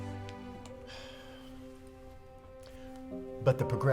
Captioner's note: sighs